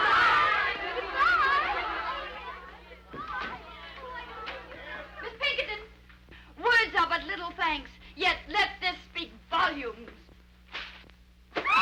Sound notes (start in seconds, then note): 3.2 girls chattering